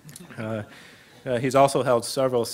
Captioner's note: chuckling